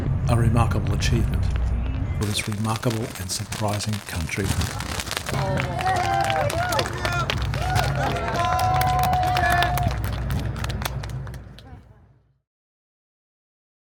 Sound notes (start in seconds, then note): 6.4 cheering